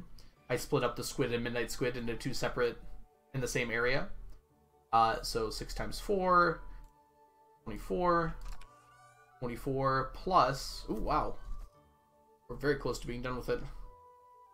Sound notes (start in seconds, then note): none